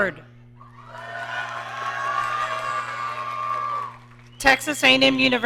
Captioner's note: audience cheering